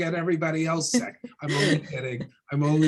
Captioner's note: laughs